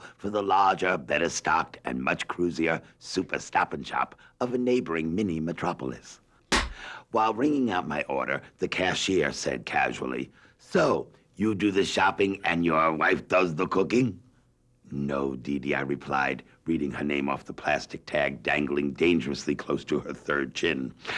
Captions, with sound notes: for the larger, better stocked and much cruisier Super Stop-n-Shop, of a neighboring mini-metropolis. [slate clap] While ringing up my order, the cashier said casually, "So, you do the shopping and your wife does the cooking?" "No, DeeDee," I replied, reading her name off the plastic tag dangling dangerously close to her third chin.